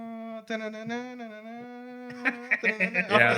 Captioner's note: non-english Speech